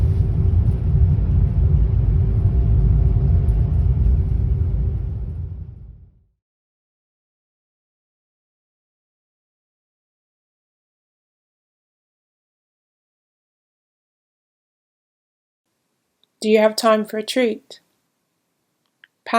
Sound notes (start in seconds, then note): 2.3 train rumbling fades to silence